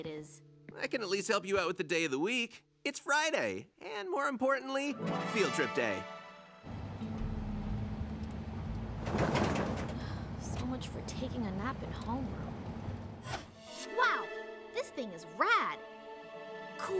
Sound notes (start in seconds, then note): 9.9 sighs